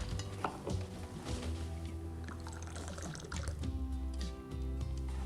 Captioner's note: alcohol bubbling